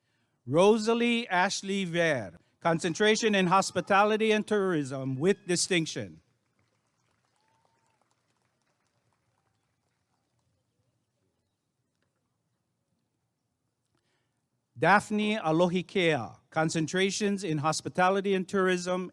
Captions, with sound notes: Rosalie Ashley Ver Concentration in Hospitality and Tourism with Distinction [applause and cheering] Daphne Alohikea Concentration in Hospitality and Tourism